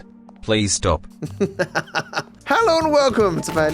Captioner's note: laughs